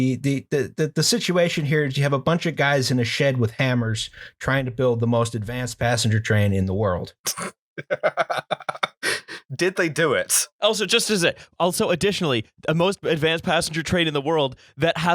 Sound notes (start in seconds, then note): 7.8 laughter